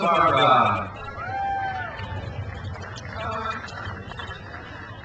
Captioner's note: crowd cheers